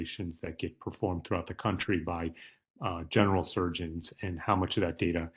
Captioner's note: none